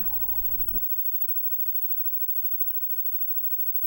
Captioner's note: background: Chopping on cutting board